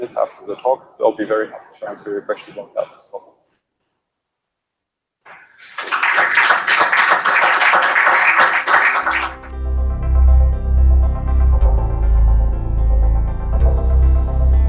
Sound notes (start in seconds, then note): 5.3 applause